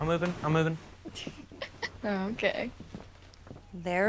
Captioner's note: Olivia chuckles